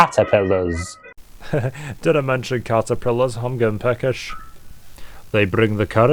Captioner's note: chuckles